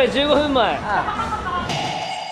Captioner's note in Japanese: スタッフさんの笑い声